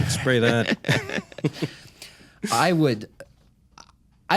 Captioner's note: chuckles